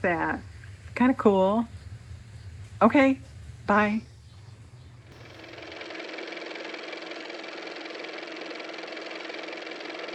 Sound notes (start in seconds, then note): 7.9 car motor